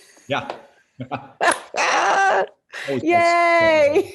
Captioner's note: both chuckles